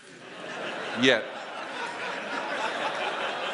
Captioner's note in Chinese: 笑聲